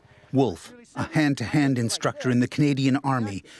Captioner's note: voiceover